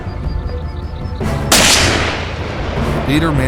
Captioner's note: gunshot